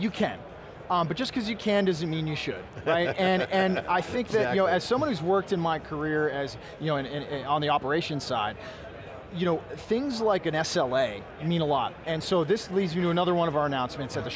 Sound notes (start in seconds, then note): 2.7 chuckling